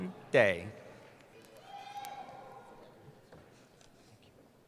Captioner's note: cheering